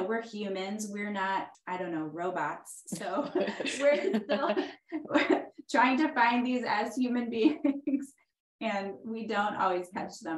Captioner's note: laughs